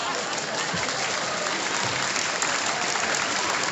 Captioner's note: applause